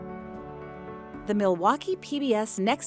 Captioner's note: voiceover